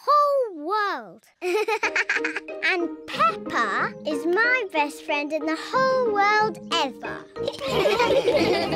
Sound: giggling; all laugh

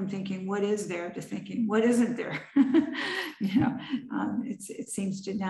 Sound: laughs

